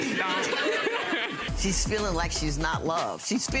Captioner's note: audience laughing